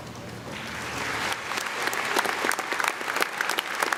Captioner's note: audience claps